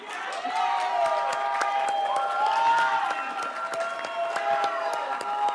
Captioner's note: everybody applauds and cheers